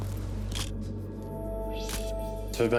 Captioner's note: camera shutter click